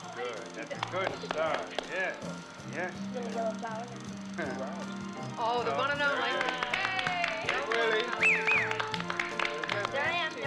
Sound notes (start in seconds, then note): 3.3 chattering; 6.1 cheering, Applauding